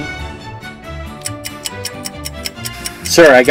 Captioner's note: clock countdown